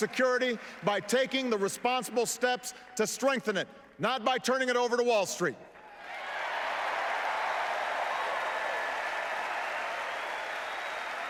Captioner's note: applause